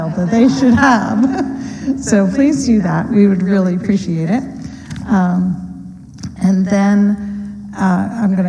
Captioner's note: laughter